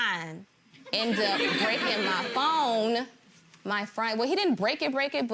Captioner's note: gallery laughs